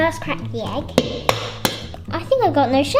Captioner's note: egg thuds